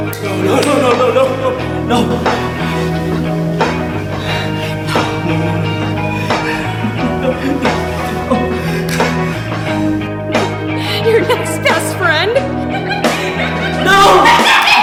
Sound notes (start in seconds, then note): 7.4 gasping; 10.9 giggling; 14.6 Mooshie laughing hysterically